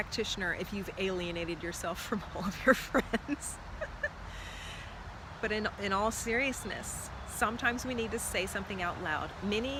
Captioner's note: laughing